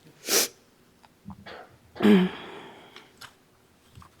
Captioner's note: sniffles